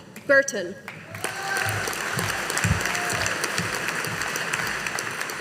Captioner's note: audience applauding